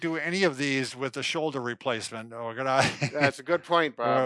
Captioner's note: laughs